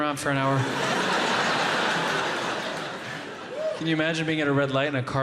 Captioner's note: audience laughing